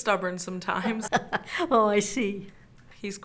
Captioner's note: laughs